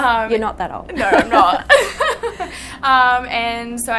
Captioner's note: both chuckling